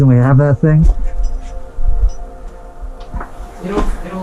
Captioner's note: scraping; metal clinking